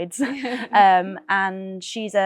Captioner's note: laughing